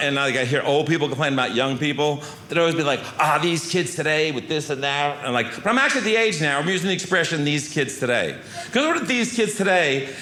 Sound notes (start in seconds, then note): none